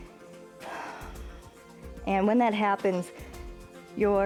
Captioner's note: exhales